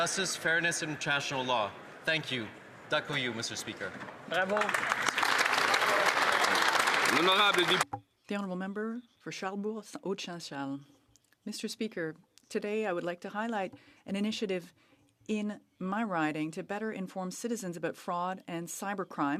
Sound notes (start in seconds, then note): 7.1 applause